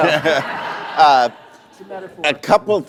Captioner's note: laughter